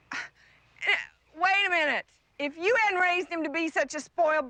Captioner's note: gasps